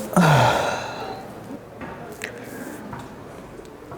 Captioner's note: sighs